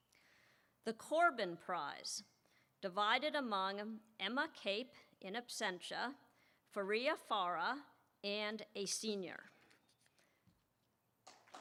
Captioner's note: applause